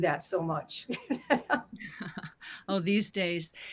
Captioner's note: chuckles